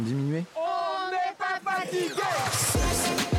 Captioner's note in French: en choeur